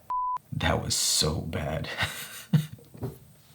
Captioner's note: laughing